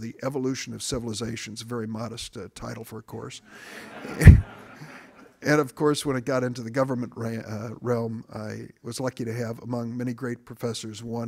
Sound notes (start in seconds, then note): 3.5 audience laughing